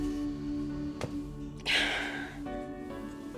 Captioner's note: sighing